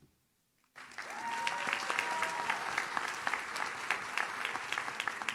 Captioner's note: audience cheers